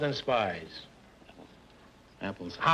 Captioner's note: whispering